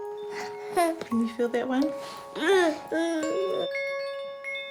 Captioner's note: murmurs; wind chimes jangles